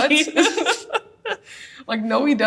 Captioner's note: both laugh